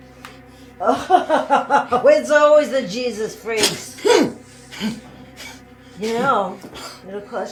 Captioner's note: laughing